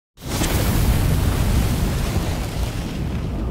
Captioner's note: flames roaring